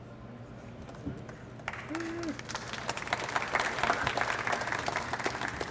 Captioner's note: audience applauds